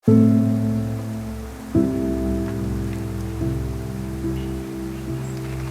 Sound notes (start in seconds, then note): 0.0 peaceful music; 0.3 leaves rustling